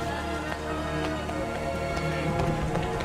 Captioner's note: running footsteps